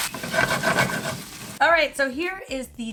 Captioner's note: pan scraping